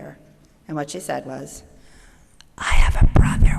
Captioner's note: whispering